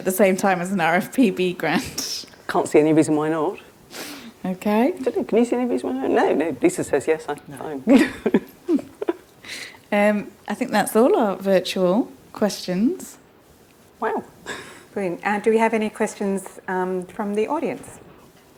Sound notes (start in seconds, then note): 2.1 laughs; 7.8 laughs